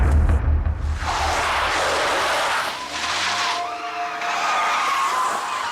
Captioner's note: screeching